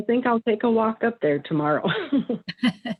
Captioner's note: laughs